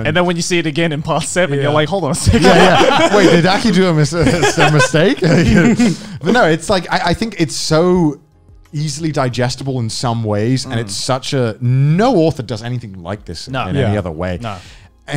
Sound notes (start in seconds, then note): 2.2 men laughing